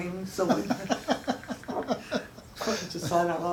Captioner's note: chuckling